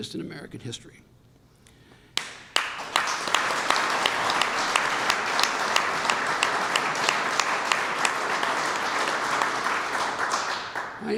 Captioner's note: applause